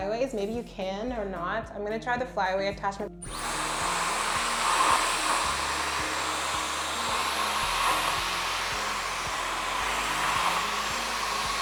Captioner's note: hair dryer sound